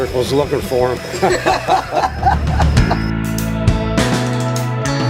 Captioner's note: group laughs; upbeat rock music